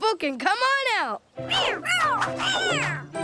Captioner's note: meowing